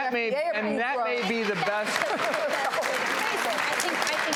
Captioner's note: audience applauds